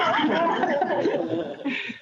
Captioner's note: laughs